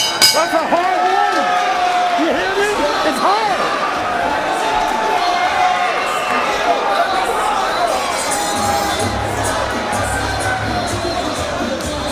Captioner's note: bell rings